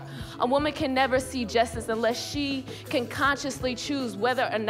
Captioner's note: none